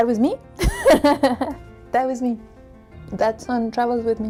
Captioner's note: giggles